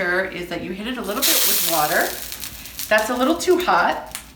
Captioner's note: pan sizzles